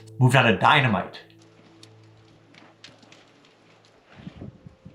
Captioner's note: rustling